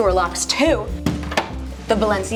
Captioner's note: door locking